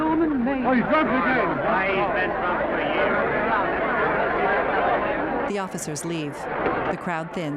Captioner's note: crowd chattering incessantly